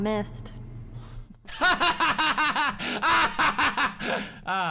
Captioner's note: laughs